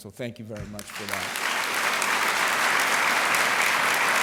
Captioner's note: applause